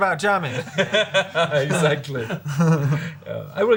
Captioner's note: laughs